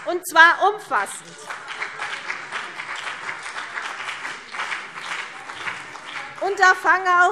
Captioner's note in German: Beifall CDU und BÜNDNIS 90/DIE GRÜNEN